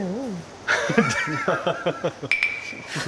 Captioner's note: crack up